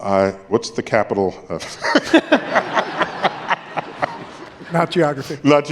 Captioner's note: laughter